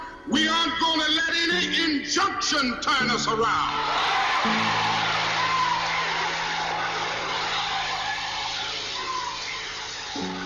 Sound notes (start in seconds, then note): 3.4 crowd cheers